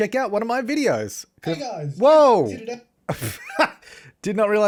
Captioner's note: laughter